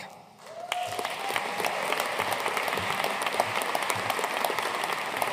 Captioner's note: audience cheering and applauding